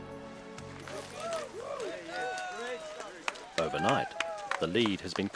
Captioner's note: cheering